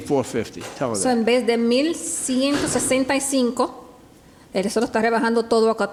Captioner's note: speaking Spanish